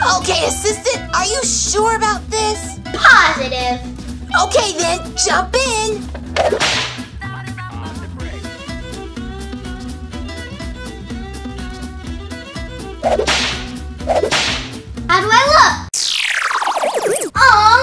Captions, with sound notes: - Okay assistant, are you sure about this? - Positive! - Okay then, jump in! (whip cracks) (bluegrass music) (whip cracks) - How do I look? (futuristic zapping)